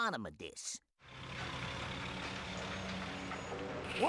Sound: engines grinding

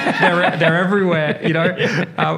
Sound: laughs

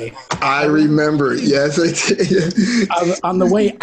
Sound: laughs

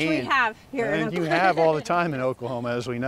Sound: laughs

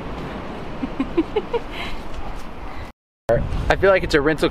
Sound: laughs

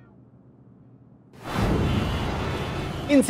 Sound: honking

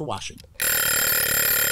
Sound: alarm ringing

